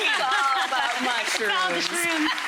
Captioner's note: audience cheers and applauds